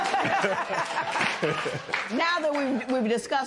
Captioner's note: laughter and applause